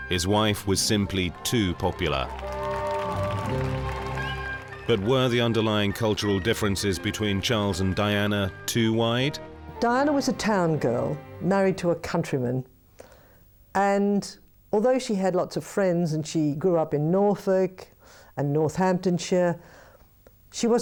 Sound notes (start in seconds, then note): 2.6 crowd applauding; 2.6 crowd cheering; 3.8 upbeat instrumental music